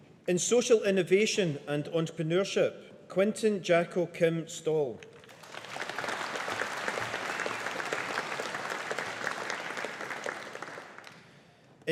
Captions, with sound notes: In Social Innovation and Entrepreneurship. Quinten Jacco Kim Stol. (AUDIENCE APPLAUDING)